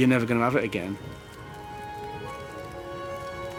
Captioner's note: fire crackling